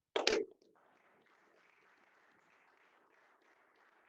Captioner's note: applause